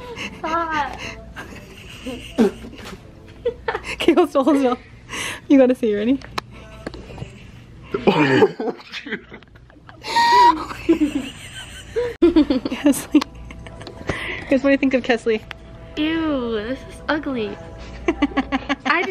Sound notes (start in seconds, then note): 1.3 laughs; 7.9 laughs; 10.6 giggles; 17.9 laughs